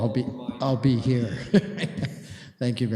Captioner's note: laughing